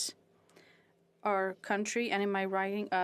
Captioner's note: speaking French